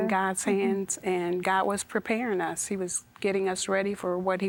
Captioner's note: none